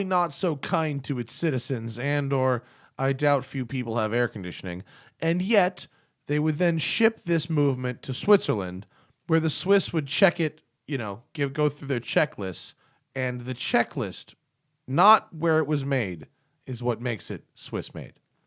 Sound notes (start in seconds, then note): none